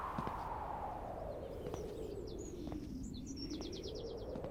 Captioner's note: wind blowing